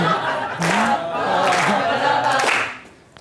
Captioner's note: audience laughing; voiceover; clapping